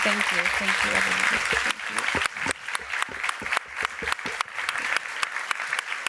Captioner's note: applause